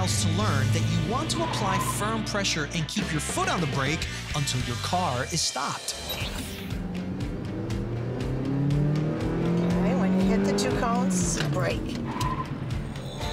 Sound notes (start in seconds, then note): 6.6 engine accelerating; 12.0 tires squealing